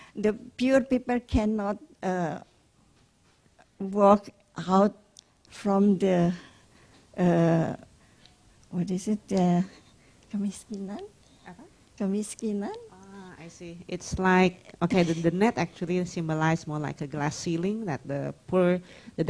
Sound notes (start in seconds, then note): 10.7 speaks Indonesian